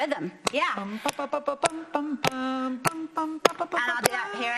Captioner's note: clapping to the rhythm